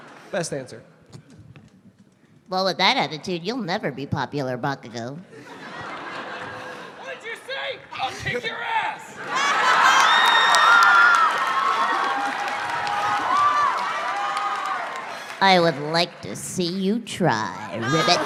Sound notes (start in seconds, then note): 9.2 cheering, applause gallore